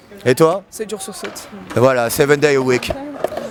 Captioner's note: speaking in foreign language